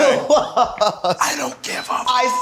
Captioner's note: laughs